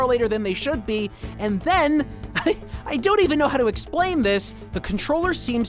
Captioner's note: chuckles